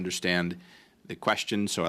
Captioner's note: speaking French